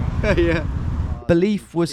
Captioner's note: laughing